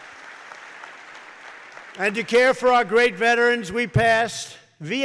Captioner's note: applause